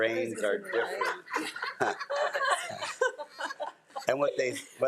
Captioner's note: crowd laughing